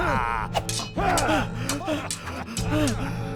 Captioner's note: cackling; swordfight sounds